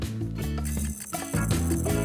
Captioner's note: flapping sound